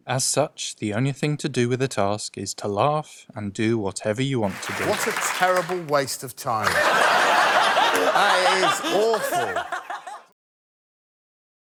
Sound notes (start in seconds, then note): 6.6 laughter; 9.4 sarcastic tone